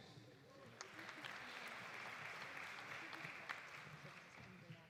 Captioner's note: audience applauding